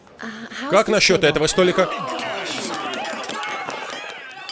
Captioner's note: patrons yelling, screaming